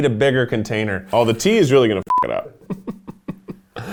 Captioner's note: beep; laughs